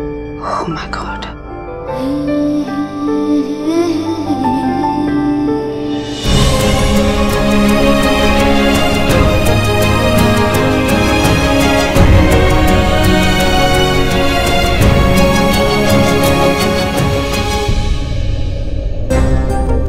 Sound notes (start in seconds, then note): 12.2 mouthing